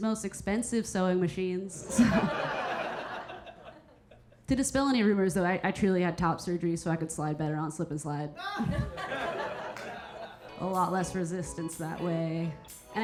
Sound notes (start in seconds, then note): 1.8 audience laughing; 8.5 audience laughing